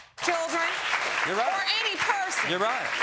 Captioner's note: audience applauding